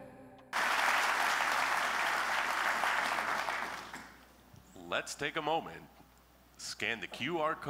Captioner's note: applause